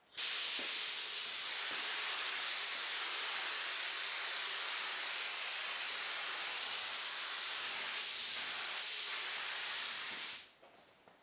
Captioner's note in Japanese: 塗装音